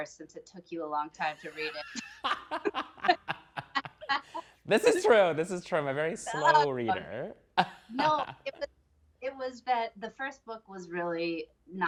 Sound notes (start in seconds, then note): 1.4 laughing